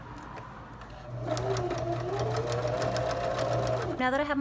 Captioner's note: sewing machine hums